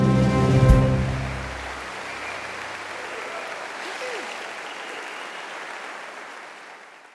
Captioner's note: applause